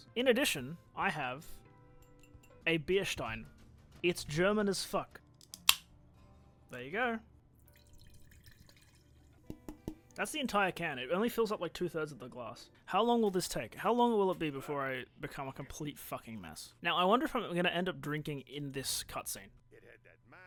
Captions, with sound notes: In addition, I have... *ceramic clinking sound* A beer stein. It's german as fuck. *can opening* There you go! *pouring out can into stein* *taps empty can* That's the entire can, it only fills up like two thirds of the glass. How long will this take? How long will it be before I become a complete fucking mess? I wonder if I'm going to end up drinking in this cutscene.